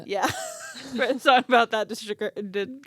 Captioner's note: laughing